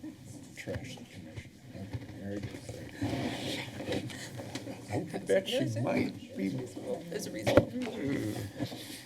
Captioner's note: chatter